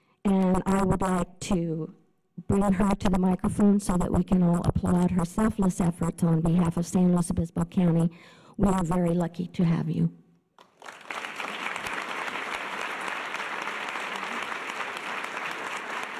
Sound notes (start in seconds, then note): 10.6 audience applause